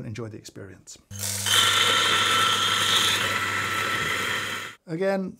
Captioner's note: grinder whirring